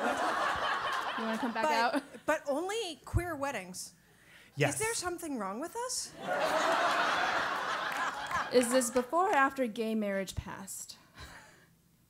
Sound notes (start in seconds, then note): 0.1 laugh; 6.3 laugh